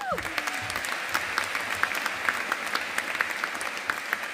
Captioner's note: audience applauding